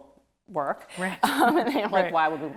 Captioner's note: both laughing